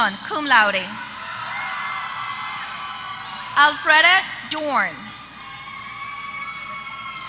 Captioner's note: applause